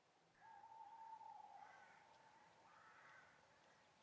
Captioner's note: owl hooting